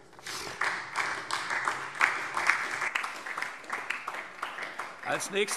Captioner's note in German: Beifall SDP